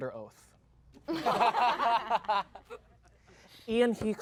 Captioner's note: everyone laughs